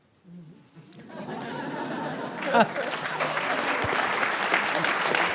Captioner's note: laughter and applause